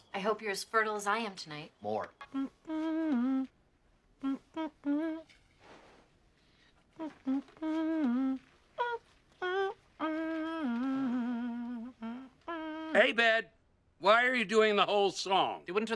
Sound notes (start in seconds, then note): 2.3 ABED humms DAYBREAK by MICHAEL HAGGINS